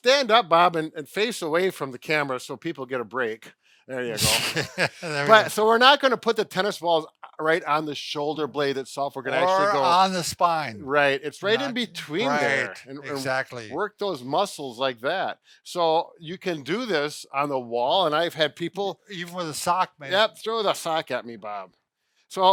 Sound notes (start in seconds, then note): 4.1 laughing